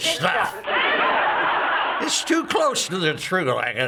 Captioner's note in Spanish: ásperamente; Lucy, ásperamente; ásperamente